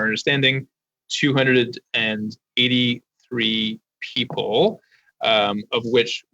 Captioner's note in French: voix de l'interprète